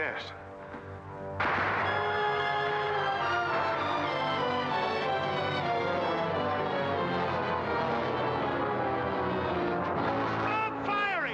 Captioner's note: dramatic music; gunfire